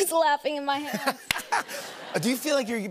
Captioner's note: laughter